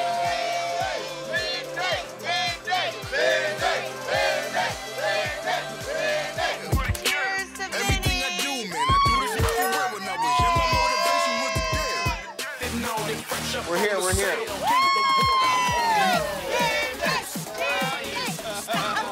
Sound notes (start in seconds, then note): 7.4 upbeat hip hop music; 12.6 upbeat club music; 14.5 cheering